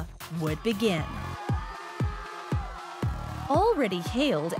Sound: upbeat electronic music; crowd cheering

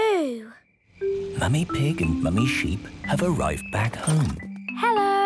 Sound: whispering

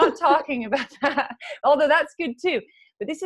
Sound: laughs

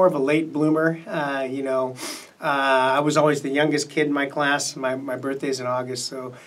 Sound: sniffs

